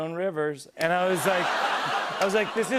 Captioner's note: laughter